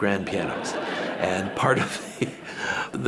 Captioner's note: audience laughing; chuckling